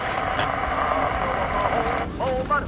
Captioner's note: radio scratching